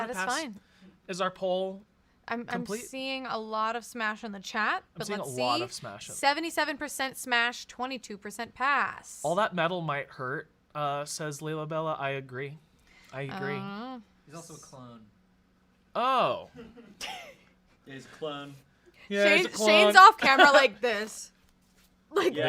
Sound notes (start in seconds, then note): 16.4 laughs